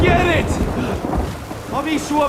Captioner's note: thunder rumbling